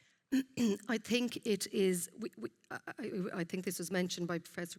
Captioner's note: clears throat